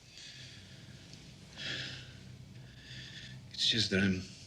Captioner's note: sighs